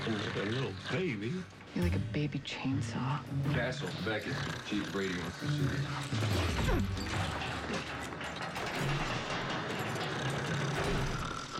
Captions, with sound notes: HE'S SLEEPING LIKE A LITTLE BABY. (snoring continues) MORE LIKE A BABY CHAINSAW. CASTLE, BECKETT, CHIEF BRADY WANTS TO SEE YOU. (clatters) (snoring continues)